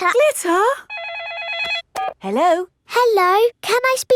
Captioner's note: phone rings